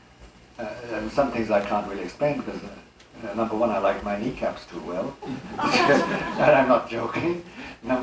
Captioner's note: laughter